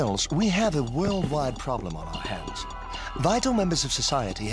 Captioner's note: funky music; shrieking